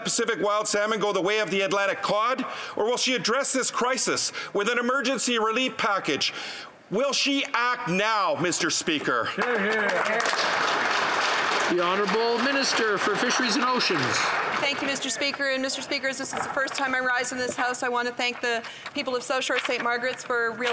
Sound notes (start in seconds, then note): 12.1 some Applause